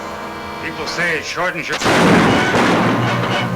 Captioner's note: speaker cut off by gun banging; exciting music; gun bangs